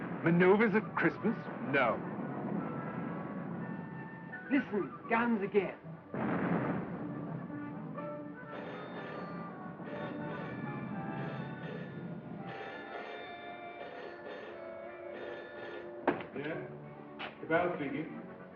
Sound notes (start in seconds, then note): 1.4 artillery Continues; 8.3 phone Ringing